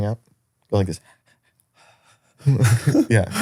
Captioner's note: panting